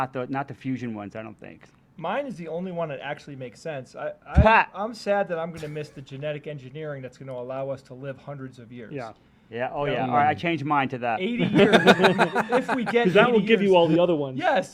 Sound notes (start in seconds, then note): 4.6 scoffs; 11.3 laughter